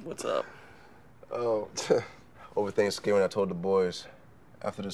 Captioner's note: scoffs